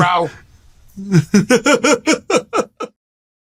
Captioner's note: laughing